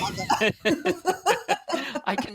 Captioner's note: laughter